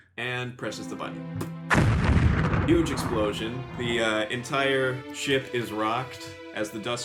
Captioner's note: explosion sound